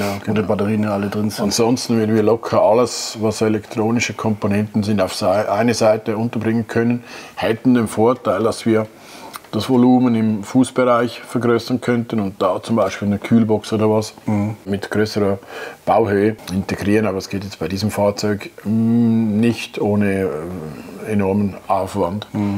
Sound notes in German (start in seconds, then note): none